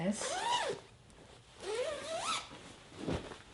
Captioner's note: zipper zips